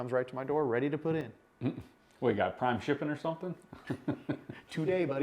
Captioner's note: laughs